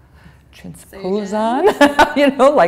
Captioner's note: laughter